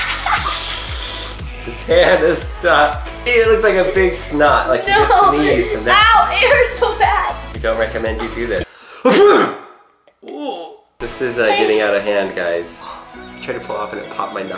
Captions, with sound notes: (laughs) - His hand is stuck. Ew, it looks like a big snot, like you just sneezed. - Ow, it hurts so bad. - We don't recommend you do this. (sneezes) Ooh! This is getting out of hand, guys. I tried to pull it off